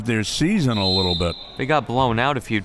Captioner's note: referee blows whistle